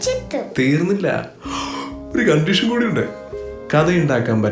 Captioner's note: yawning